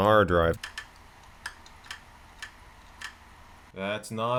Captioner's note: hard drive clicking